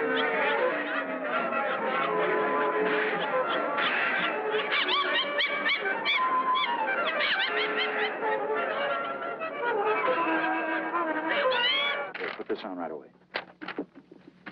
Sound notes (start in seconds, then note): 4.4 laughing